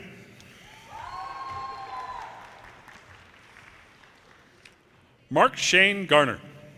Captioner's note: audience cheers and applause